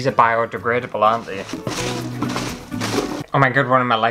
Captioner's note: rummaging